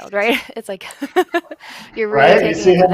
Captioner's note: laughs